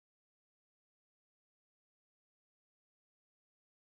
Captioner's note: none